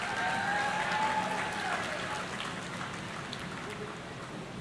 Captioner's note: audience cheering